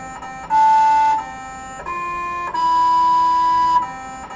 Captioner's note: melodic beeping